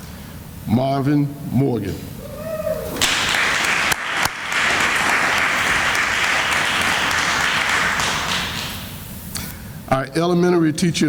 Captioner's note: sounds of applause